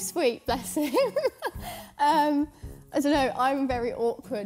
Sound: chuckling

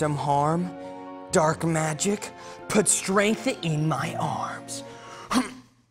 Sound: grunts

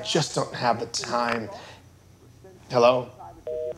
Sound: phone clicking

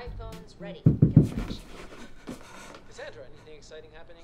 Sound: door knocks

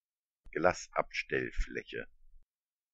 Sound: fast Pronunciation

